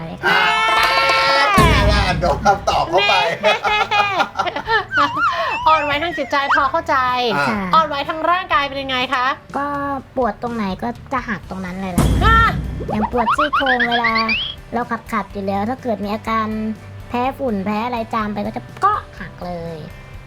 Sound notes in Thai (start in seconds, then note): 0.2 โห่ร้อง; 3.4 หัวเราะ; 13.1 ร้องตกใจ